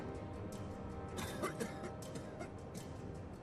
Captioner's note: coughs